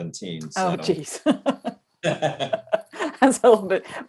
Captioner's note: laughter